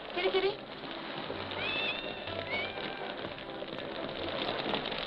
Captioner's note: cat meowing